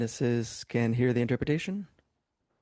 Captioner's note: speaking French